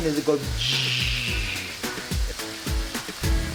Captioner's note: imitates rapid boiling; upbeat music